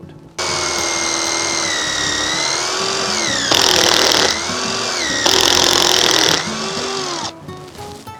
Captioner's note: drilling